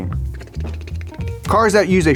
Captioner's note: bicycle clicking